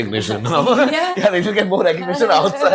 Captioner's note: laughs